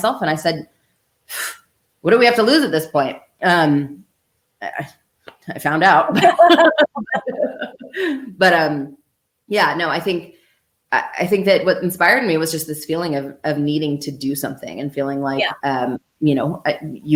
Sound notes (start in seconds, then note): 6.1 laughter